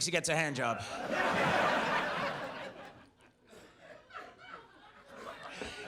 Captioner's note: audience laughs